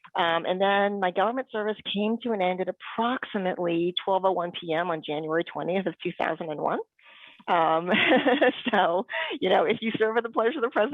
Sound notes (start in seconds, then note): 7.9 laughs